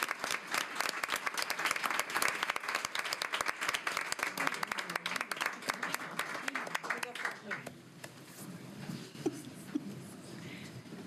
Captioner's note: applause